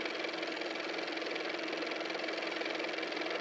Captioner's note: car motor